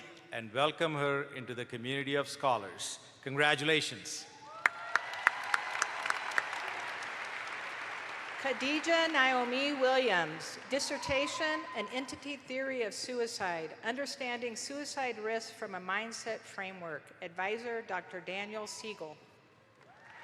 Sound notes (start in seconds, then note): 4.5 audience applauds